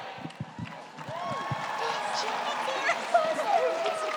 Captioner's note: audience applauds